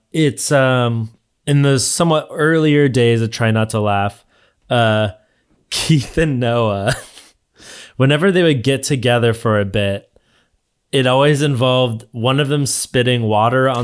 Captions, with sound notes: It's in the somewhat earlier days of "Try Not to Laugh." Keith and Noah (chuckles) whenever they would get together for a bit, it always involved one of them spitting water